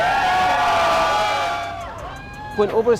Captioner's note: cheering